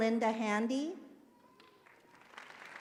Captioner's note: applause